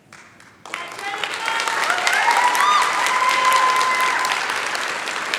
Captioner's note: applause